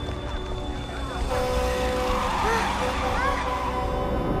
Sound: honking

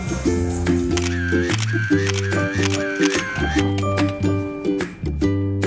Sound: camera Clicking

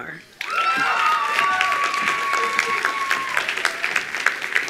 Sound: attendees applauding

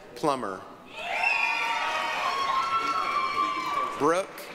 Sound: applause, cheering

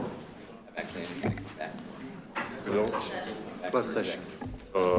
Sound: speaking faintly

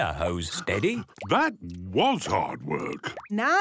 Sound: panting

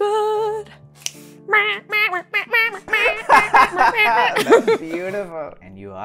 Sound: laughter

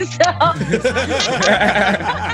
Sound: all laugh

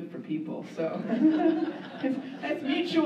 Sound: laughter

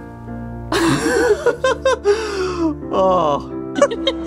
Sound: laughing

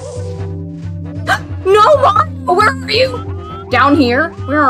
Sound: gasp

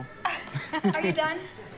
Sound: Willow and Noah laughing

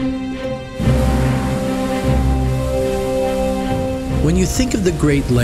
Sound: waves crashing

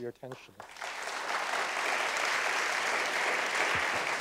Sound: applause

